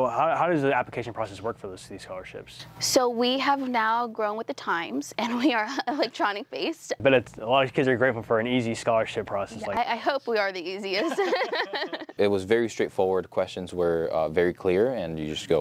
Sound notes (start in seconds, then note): 10.9 laughter